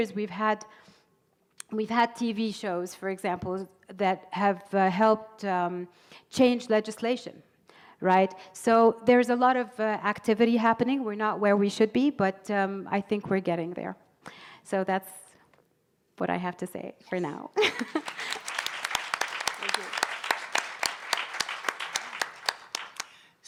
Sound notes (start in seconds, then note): 17.6 audience applauding